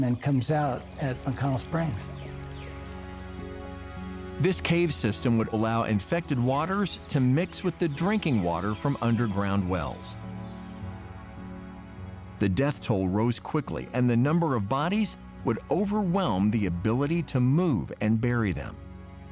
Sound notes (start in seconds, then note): 2.7 birds chirping